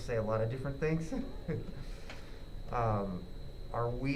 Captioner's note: laughing